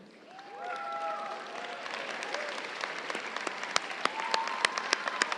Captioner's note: crowd cheering and applauding